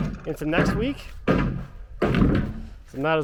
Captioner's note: heavy object pounding